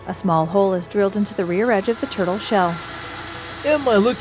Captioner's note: drill whirring